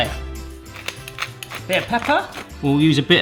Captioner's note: crunching